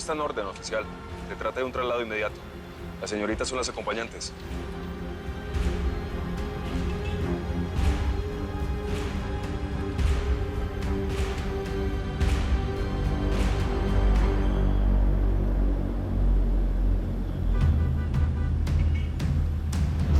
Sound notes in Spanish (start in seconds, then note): 17.2 Sonido del claxon